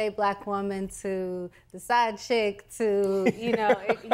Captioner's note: laughing